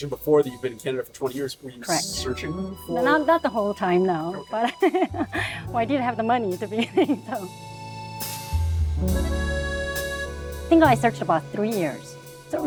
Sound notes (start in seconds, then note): 4.6 laughing; 7.8 light French music continues